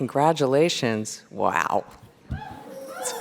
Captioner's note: applause and cheers